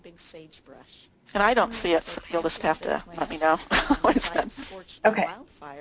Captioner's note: laughter